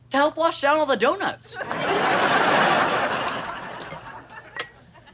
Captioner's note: audience laughter